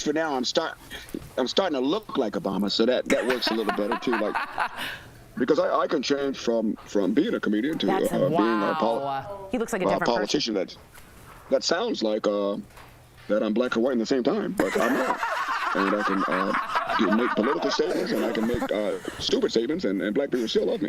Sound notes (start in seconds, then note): 3.0 laughter